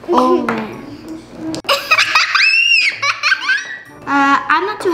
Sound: laughter

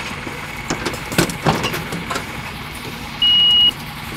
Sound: loud banging; beep

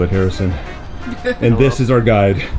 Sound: laughter

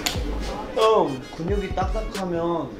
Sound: half yawning, half shouting

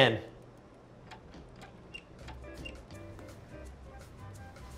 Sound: knob squeaking

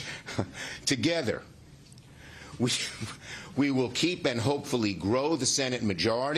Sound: laughter

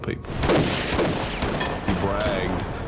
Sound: gun shots

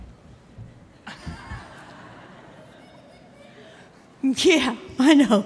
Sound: audience laughing

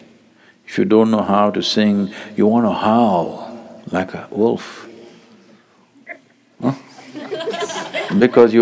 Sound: laughter

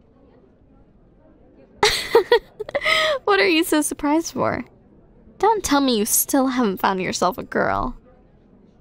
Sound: laughs

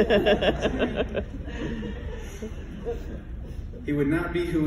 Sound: laughing

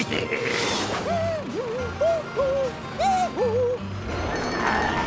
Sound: laughing; humming

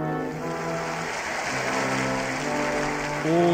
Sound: applause

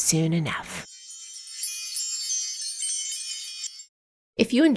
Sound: magical charm bells

